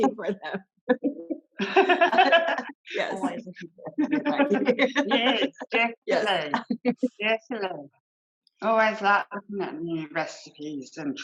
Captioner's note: laughter